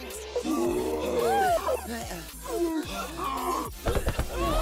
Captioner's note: gasping for air